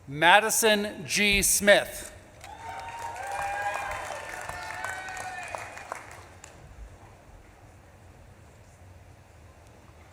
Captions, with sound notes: Madison G. Smith. (audience claps and cheers)